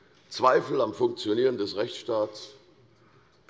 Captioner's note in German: none